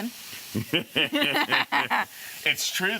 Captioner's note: laughing